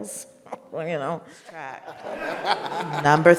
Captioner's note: all laugh